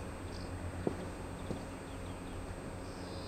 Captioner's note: birdsong